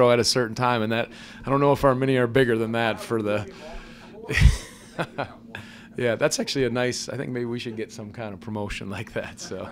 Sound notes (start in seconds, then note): 5.1 laughs